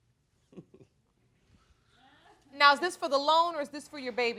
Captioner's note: chuckling